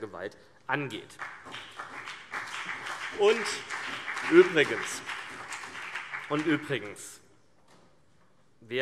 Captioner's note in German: Beifall BÜNDNIS 90/DIE GRÜNEN und vereinzelt CDU